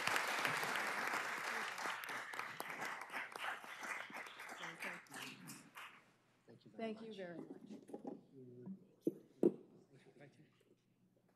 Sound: applause

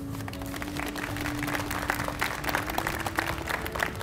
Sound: audience applauds

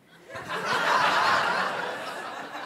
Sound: laughter

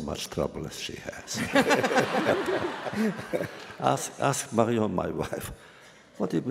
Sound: laughter

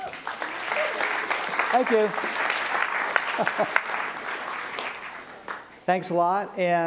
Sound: applause

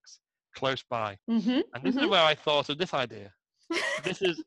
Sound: picture appears on screen, laughs

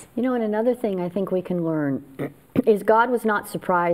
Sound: clears throat

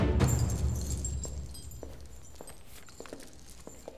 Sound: bead curtain door sound; footsteps

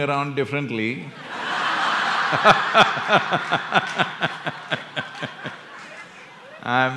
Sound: cheering/Applause; laughter

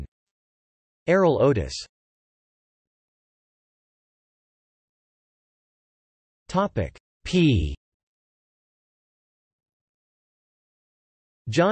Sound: in German

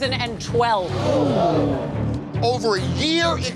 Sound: patrons gasp

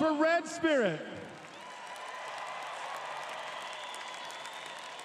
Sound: crowed cheering

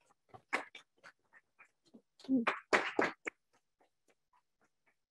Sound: audience clapping

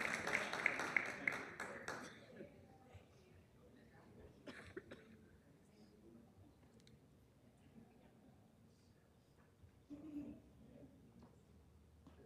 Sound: applause

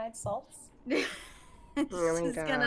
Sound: chuckles

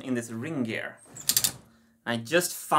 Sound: mechanism clicking

